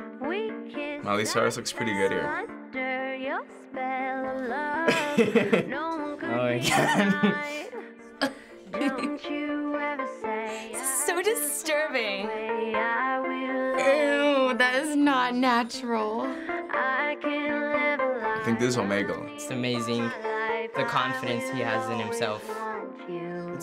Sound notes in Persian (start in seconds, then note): 4.8 خندیدن پسر; 8.6 خندیدن دختر